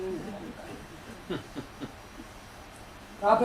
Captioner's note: laughter